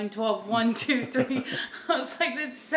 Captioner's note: laughs